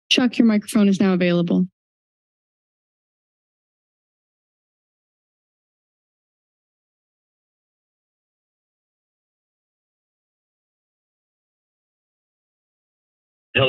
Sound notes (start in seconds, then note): 2.1 silence